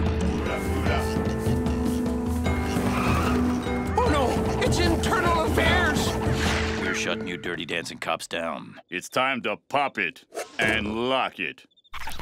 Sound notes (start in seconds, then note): 2.5 tires screeching; 11.9 record scratching